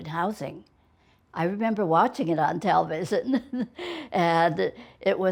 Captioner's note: chuckles